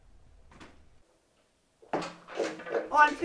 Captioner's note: loud door opening